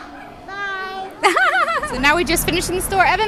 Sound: haha

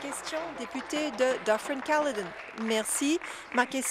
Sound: applause

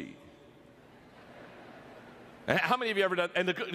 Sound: audience laughter

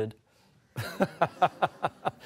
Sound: laughter

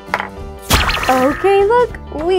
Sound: magical zap

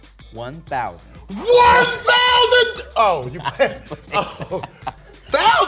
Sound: laughs

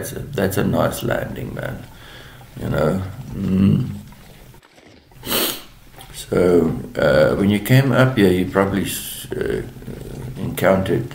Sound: sniff

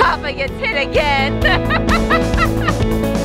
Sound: laughs

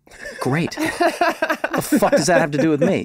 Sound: all laughing

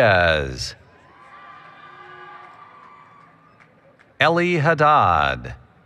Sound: applause, Cheering

